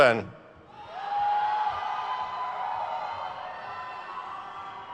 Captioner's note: crowd cheers